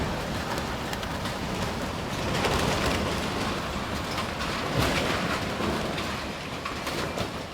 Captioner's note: wind roaring; metal clacking